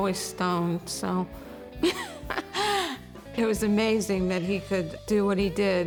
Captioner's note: laughs